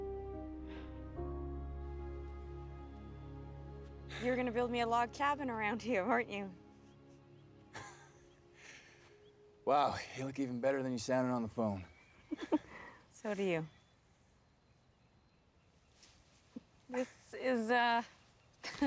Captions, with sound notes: YOU WERE GONNA BUILD ME A LOG CABIN AROUND HERE, WEREN'T YOU? [SAM CHUCKLES] WOW. YOU LOOK EVEN BETTER THAN YOU SOUNDED ON THE PHONE. SO DO YOU. THIS IS, UH... THIS IS CRAZY, HUH?